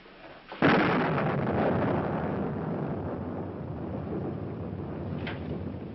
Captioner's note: thunder